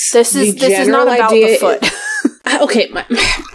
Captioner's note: laughs; sighs